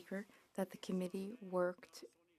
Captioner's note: speaking French